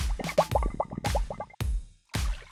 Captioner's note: upbeat music; bubbling; bottle popping